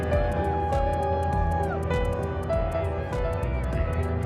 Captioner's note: crowd cheering